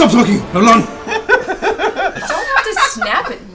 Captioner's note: laughter